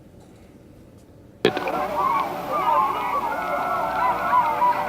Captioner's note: nature sounds